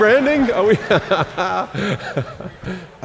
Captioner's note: laughs